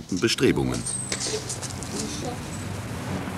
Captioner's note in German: Arbeitsgeräusche